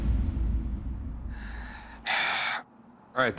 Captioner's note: sighs